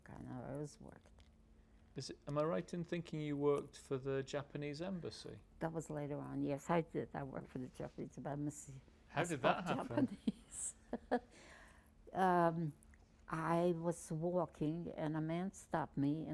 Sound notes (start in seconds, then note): 9.3 laughing